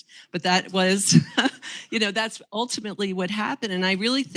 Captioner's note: chuckles